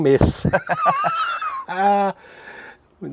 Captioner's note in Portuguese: risos